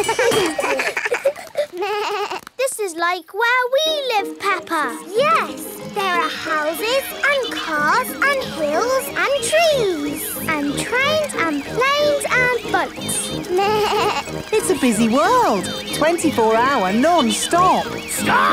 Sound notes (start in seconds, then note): 0.0 all laugh; 13.5 bleats